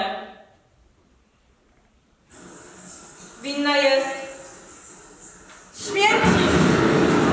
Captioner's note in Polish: słychać dźwięk pioruna, który zabija Balldyna